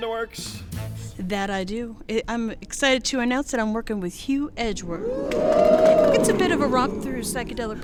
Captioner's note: audience ooo's